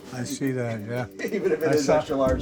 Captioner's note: laughing